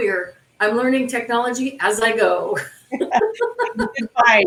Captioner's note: laughs